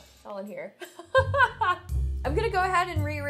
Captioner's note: laughs